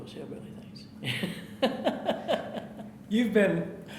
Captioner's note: laughing